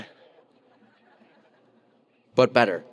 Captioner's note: audience laughing